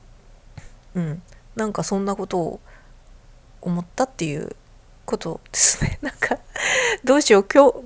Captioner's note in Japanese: 笑い